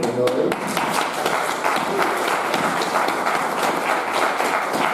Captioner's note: audience applauding